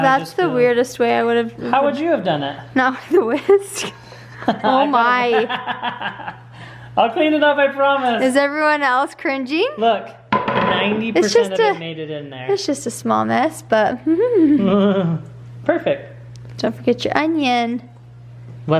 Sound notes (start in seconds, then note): 5.2 laughing; 14.3 laughs